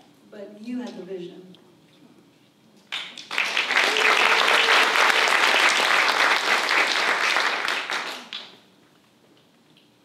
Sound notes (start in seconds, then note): 2.9 applause